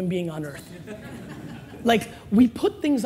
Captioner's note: laughing